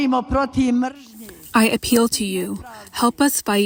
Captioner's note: through translator